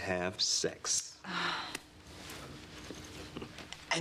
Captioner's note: sigh